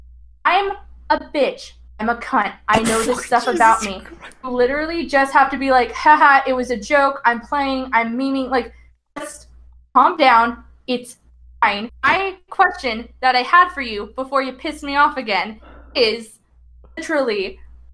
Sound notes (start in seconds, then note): 2.7 laughs